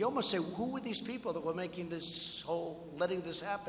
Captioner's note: none